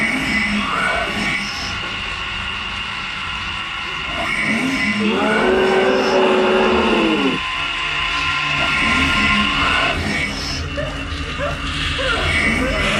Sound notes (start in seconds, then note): 6.7 Rat King growling; 11.2 Billy crying